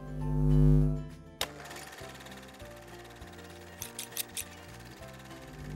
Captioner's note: scissors snipping; film reel flickering; gentle instrumental music